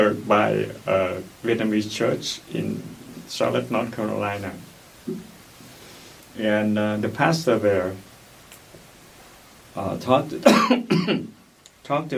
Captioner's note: coughs